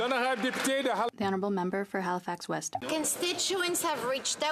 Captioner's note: some Applause